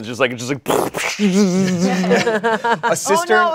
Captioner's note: everyone laughs